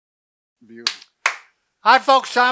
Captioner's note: hands clapping